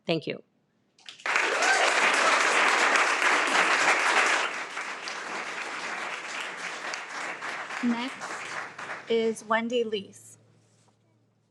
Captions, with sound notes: Thank you. (audience applauds) - Next is Wendy Leece.